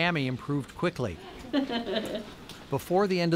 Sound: laughs

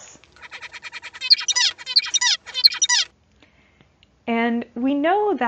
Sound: zebra finch singing

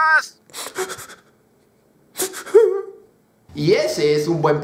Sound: he sobs

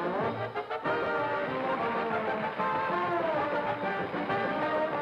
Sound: audience applauds

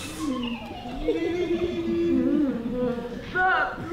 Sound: giggles

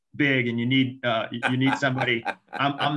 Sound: laughs

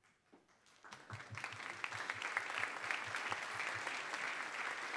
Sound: applause

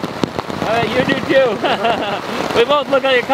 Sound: laughs

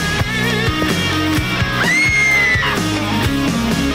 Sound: screaming

